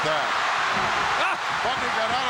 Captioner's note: audience cheering